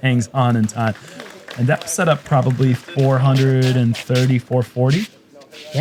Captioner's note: applause